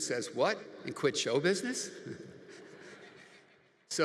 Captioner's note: chuckles; audience laughs